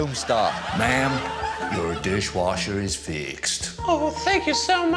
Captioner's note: american accent